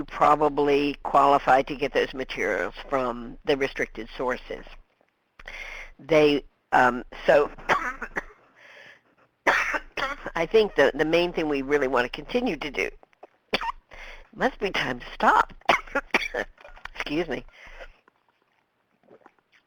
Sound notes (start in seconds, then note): 7.8 coughs; 15.6 coughs